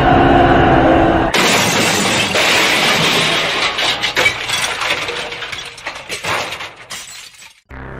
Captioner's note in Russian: звуки автомобильной аварии